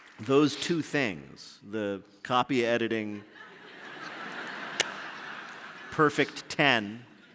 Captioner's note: applause; laughter